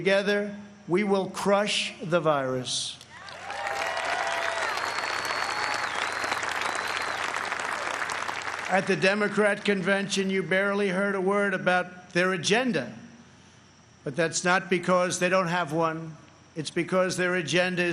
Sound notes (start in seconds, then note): 7.2 applause